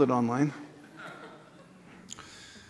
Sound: laughter

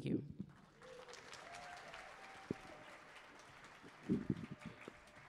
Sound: audience applauding

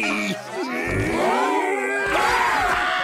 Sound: gasps

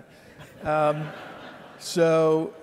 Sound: audience laughing

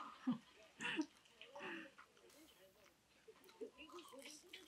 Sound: laughter while watching funny things

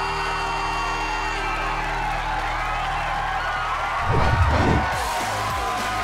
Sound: cheering; cheering, music playing

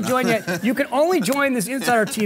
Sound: laughs

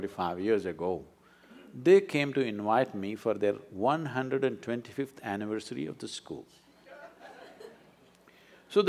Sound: few laugh

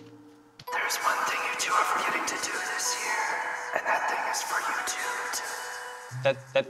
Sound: the mystical voice is back

